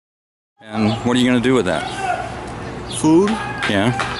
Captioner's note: shouting in background